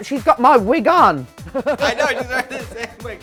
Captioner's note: chuckles